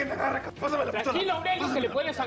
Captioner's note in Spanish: Hablan al unísono